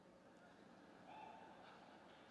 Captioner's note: laughter